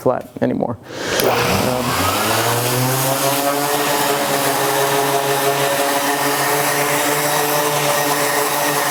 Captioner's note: sander sound